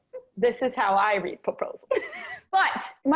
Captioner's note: laughs